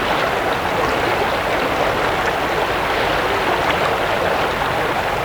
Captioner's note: running water continues